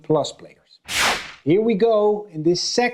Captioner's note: screen whooshing